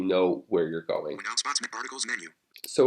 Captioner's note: screen Reader Reading